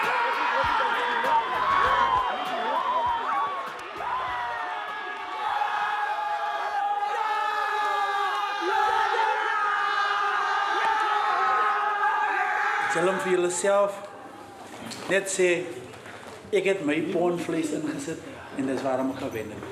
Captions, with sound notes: [SHOUTING] You should all tell yourselves, "I put in my pound of flesh, and that's why I won."